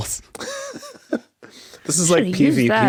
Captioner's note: chuckle